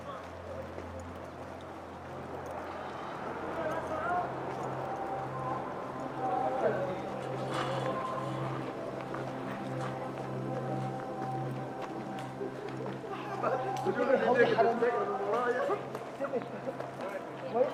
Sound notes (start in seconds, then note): 0.2 gentle music continues; 0.2 tourists chattering; 9.2 gentle music continues; 9.2 tourists chattering